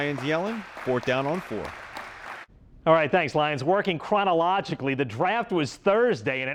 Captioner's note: applause